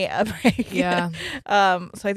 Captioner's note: laughs